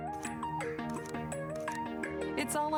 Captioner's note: camera clicking